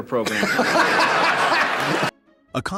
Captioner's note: laugh